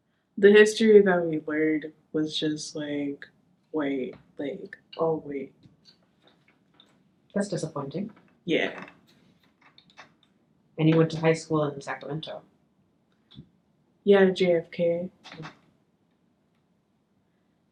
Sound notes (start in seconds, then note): none